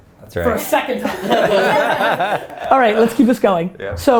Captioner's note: group laughter